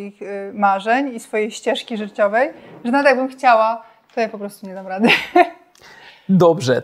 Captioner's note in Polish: śmiech